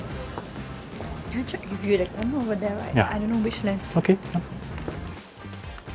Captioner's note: chattering